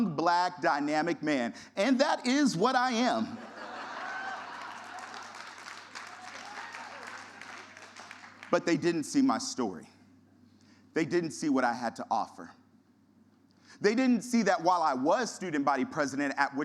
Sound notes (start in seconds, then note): 3.5 audience laughter and applause